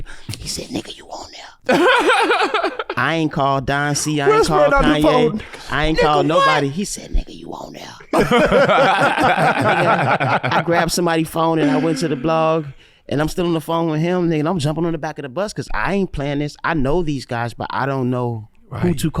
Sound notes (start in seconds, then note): 1.7 cackles; 8.1 brothers laughing